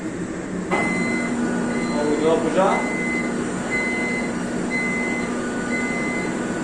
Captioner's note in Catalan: pip, pip, pip